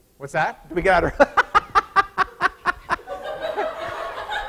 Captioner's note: laughing